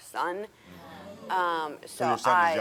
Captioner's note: audience groaning